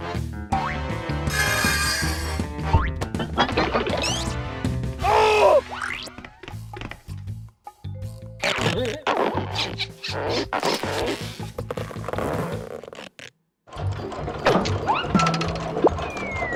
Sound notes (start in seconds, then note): 1.3 metal whirring